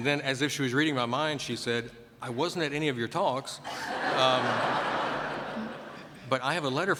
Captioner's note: laughter